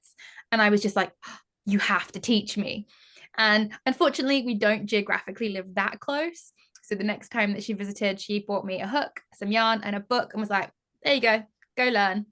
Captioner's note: gasp